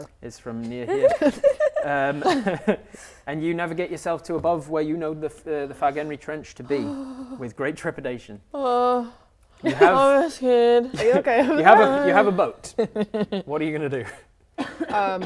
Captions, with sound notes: Is from near here *laughing* And you navigate yourself to above where you know the Fargenri Trench to be, with great trepidation Ohh Oh I'm scared Are you okay Bübble? You have a boat What are you going to do?